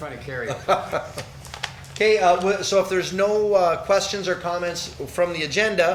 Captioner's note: laughs